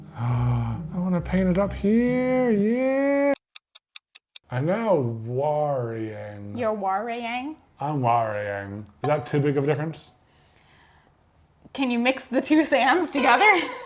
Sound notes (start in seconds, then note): 4.1 clock ticking